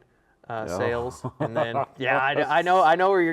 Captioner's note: laughs